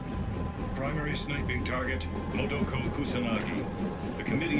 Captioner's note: over comms